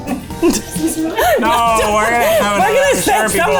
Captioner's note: laughing